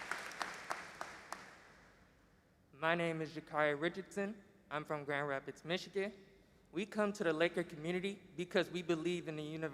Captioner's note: applause